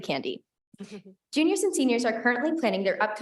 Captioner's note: board members chuckling